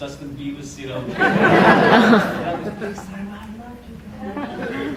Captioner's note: audience laughter